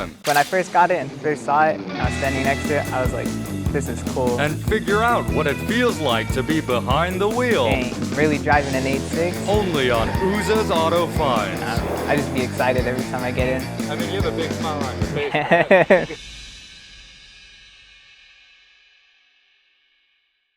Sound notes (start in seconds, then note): 14.8 chuckling